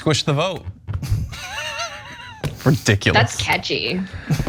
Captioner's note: laugh